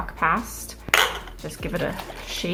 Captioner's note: jars clank together